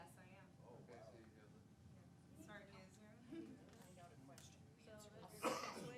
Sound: chattering amongst public

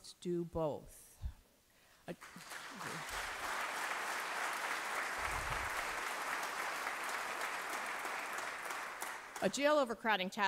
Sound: applause

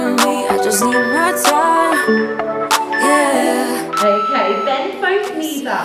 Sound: countdown timer beeping

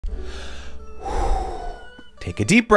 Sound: inhales and exhales deeply

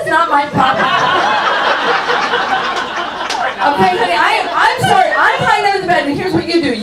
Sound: audience laughs

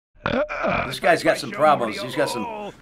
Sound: Rick burps

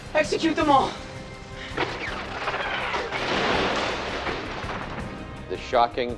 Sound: drones firing then explosions

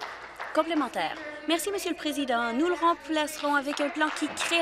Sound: applause

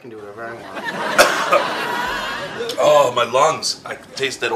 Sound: audience laughs; coughs

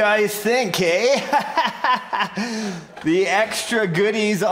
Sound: instructor laughs

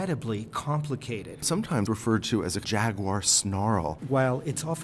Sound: voiceover

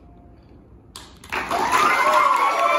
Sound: audience cheers, applauds

